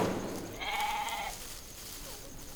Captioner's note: bleating